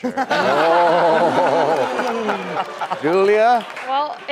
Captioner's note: laughing